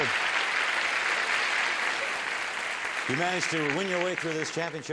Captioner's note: applause